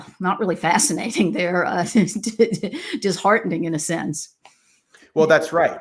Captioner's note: laughs